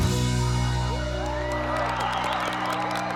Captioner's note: applause